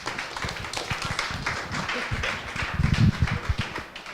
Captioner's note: applause